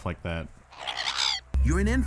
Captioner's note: cliff racer squeak